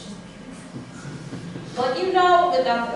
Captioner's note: laughter